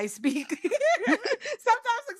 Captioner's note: laughs